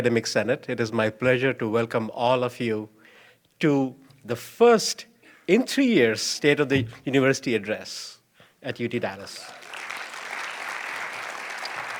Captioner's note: applause